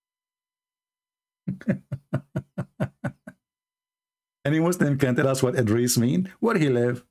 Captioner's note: Ketawa